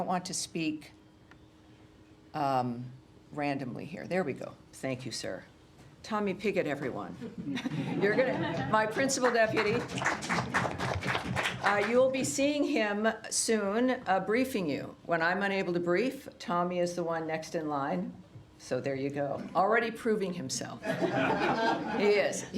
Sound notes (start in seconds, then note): 7.2 laughter; 11.6 applause; 20.8 laughter